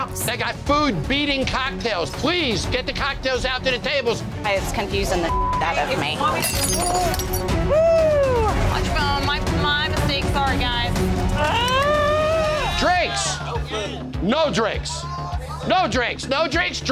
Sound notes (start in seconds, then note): 6.3 silverware clattering; 11.3 groaning